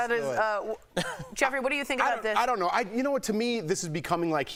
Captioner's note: laughter